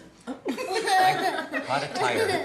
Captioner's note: laughter